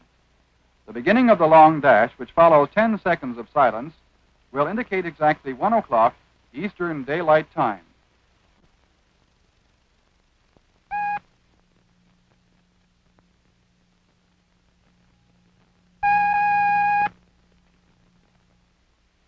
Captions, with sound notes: theDominion Observatory Officialtime signal. The beginning of the long dash, which follows ten seconds of silence, will indicate exactly one o'clock Eastern daylight time. [short beep] [long beep]